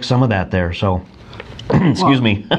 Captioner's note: coughs